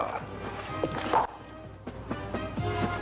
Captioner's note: clicks Heels